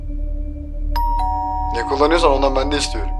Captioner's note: doorbell rings again